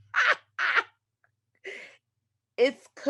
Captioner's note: laughter